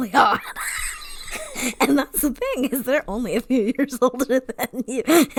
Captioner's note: wheeze laughs